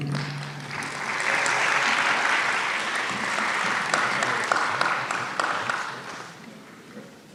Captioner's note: applause